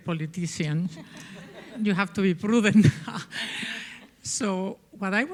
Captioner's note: audience laughing